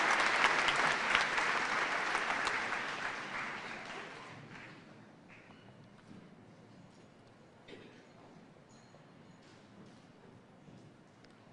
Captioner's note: cheers and applause